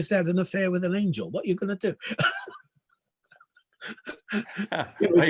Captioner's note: laughing